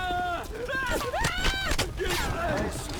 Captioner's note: screaming